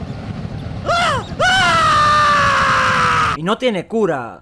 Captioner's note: wailing in agony